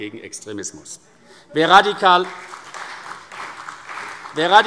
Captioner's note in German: Beifall CDU